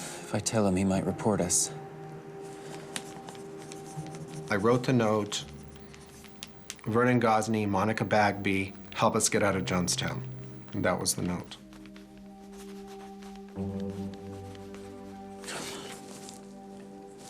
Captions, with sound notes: - If I tell him he might report us. (pencil scratches against paper) - [Voiceover] I wrote the note. "Vernon Gosney, Monica Bagby, help us get out of Jonestown." That was the note.